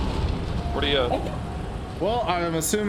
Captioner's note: monkey noises